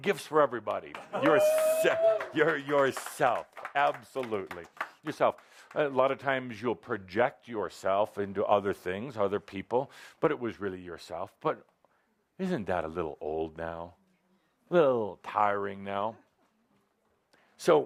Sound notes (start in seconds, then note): 0.8 applause